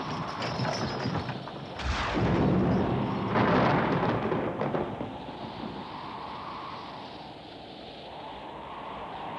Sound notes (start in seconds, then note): 1.7 thunder clapping; 1.7 wind howling